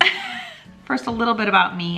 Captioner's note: chuckling